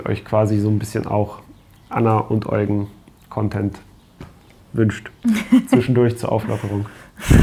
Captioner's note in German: gelächter